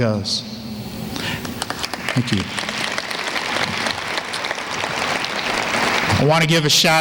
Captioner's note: applause